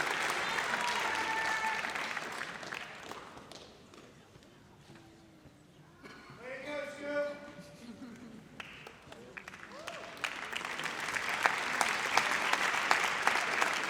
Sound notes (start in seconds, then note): 10.2 audience applauds